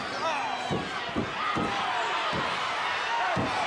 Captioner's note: floor banging